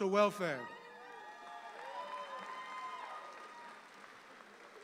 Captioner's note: audience applauds